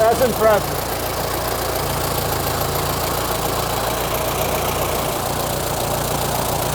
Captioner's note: engine idles